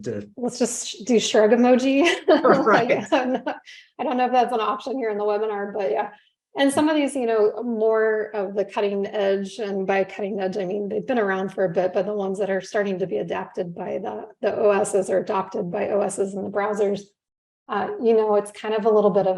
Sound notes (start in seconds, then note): 2.1 laughter